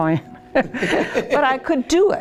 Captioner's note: laughs